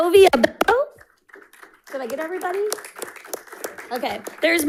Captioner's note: audience applauding